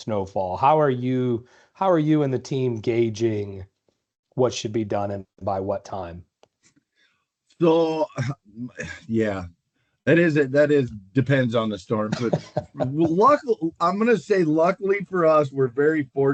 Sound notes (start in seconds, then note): 12.0 laughter